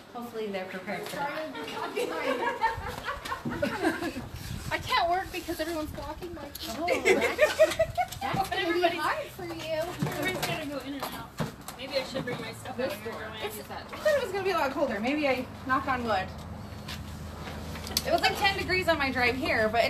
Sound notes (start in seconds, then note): 1.2 women laughing